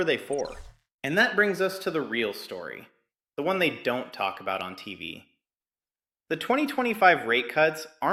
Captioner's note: sarcastic